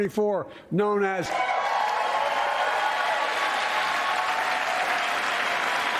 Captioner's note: cheers and applause